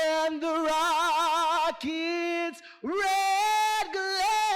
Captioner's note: none